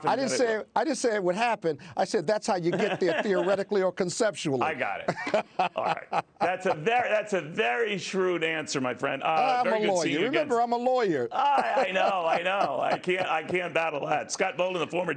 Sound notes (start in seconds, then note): 11.3 laughter